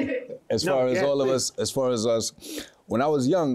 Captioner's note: laughs